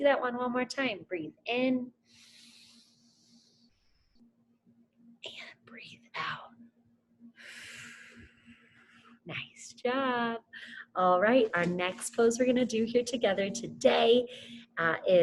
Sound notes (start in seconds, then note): 2.2 inhales; 7.4 exhales